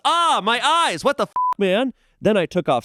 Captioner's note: beep